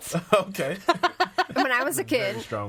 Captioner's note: all laughing